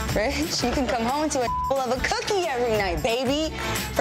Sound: beep

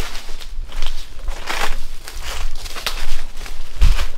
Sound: footsteps

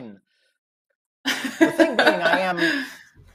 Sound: laughs

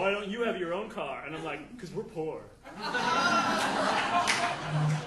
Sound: audience laughing

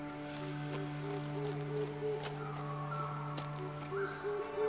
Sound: owl hooting

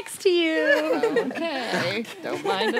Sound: laughing

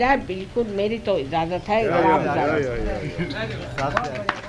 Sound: clapping

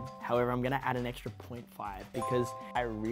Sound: chime; chime

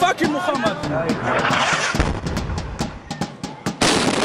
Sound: sound of explosions; celebratory music in background; sound of explosions

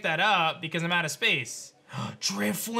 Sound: gasps

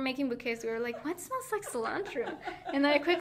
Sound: laughing

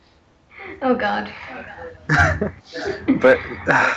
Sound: laughter

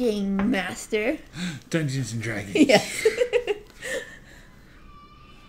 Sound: gasp; laugh

